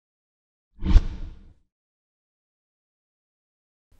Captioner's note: logo whooshes